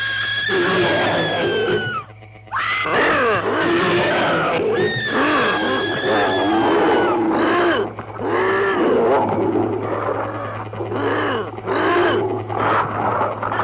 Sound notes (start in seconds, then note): 0.4 growls; 5.4 grunting